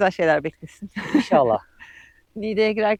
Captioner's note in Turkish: kahkaha